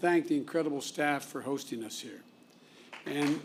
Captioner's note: applause